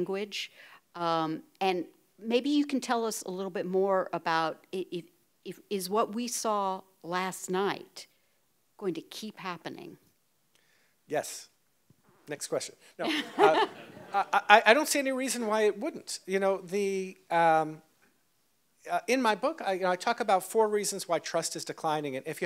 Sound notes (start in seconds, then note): 13.0 audience laughs